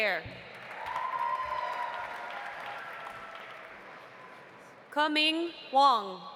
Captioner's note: audience applauding; audience cheering